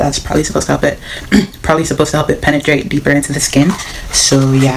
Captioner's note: cough